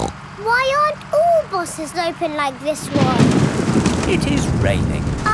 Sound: snorts; thunder crashing

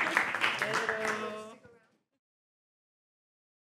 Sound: ambient chatter

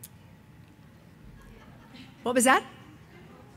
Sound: audience laughing

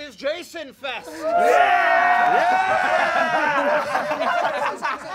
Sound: all cheering

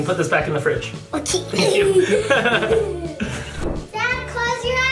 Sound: laughs

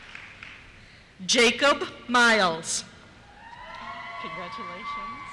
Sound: cheers

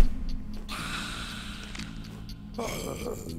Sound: hiss and neck crack; wimpering; excited mumble

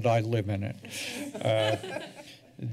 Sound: laughter

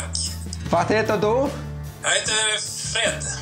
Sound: speaking Swedish

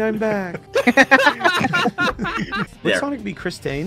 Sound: laughter

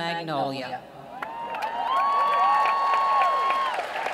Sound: cheering

